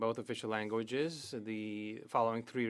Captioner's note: speaking French